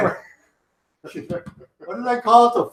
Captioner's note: laughs